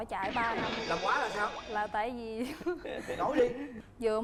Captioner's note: chuckles